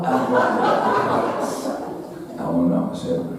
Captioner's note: audience laughing